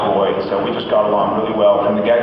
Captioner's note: none